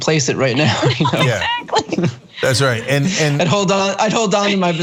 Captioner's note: laugh